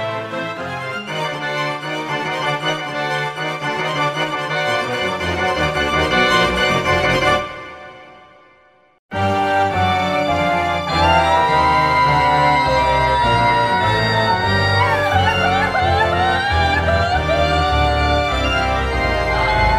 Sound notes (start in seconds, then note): 10.8 Rachel mourns the death of her children in loud, wordless cries